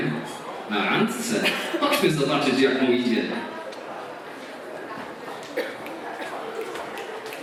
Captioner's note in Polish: Aplauz